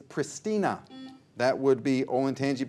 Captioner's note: buzzer buzzes